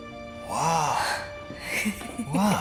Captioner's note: laughing